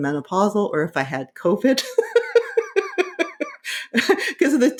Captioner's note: laughing